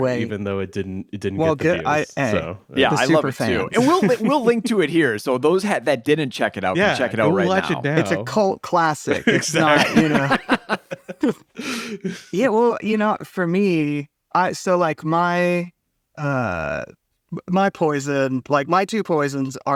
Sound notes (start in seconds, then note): 9.1 laughs